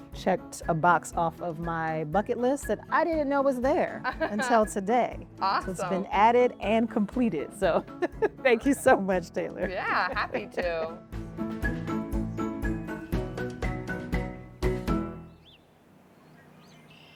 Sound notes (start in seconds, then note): 9.6 laughs; 12.8 playful music